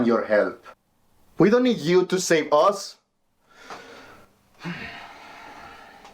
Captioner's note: sighing